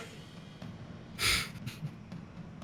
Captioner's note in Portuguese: risada